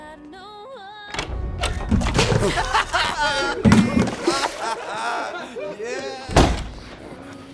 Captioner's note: water splashing; people laughing